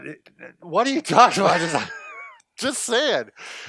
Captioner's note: laughs